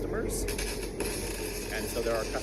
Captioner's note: welding machine buzzing